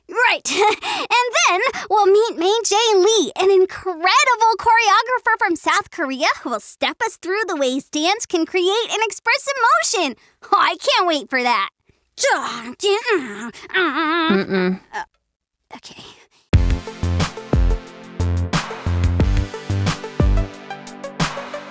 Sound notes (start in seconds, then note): 13.0 gasps and groans; 13.4 sighs